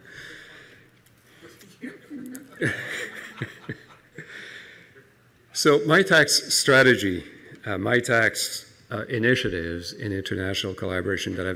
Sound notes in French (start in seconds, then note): 1.4 Le rire